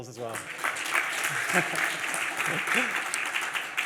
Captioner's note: applause